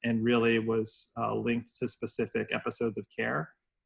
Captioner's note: none